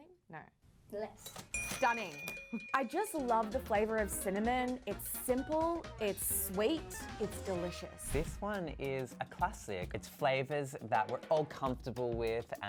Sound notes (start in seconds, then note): 1.4 cash register pinging